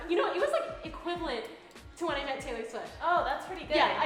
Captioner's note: none